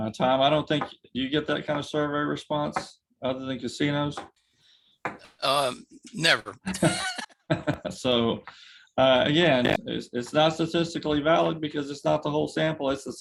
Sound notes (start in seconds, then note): 6.6 laughs